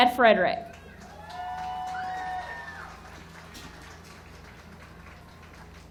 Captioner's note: audience cheering and clapping